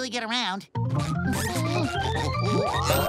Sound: humming

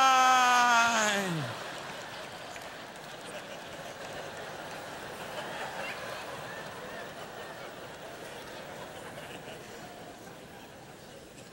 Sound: audience laughter

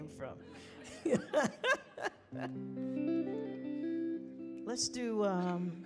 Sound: laughing

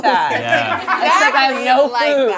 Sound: laughs

